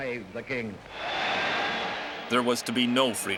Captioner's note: crowd cheering